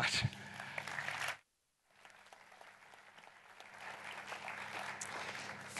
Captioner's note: applause